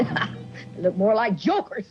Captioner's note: Ma chuckling